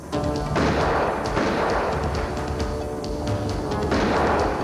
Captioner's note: gun firing